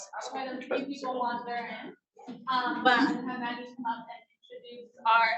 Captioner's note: speaking faintly off mic